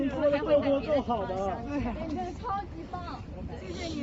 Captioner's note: crowd